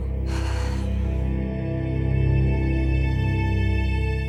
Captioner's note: Maddie sighs